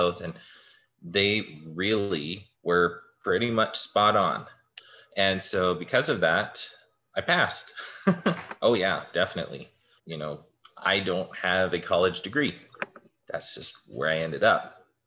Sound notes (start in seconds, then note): 7.8 laughter